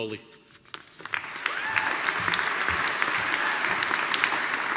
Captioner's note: audience applauding